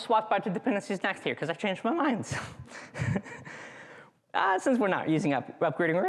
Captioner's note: chuckles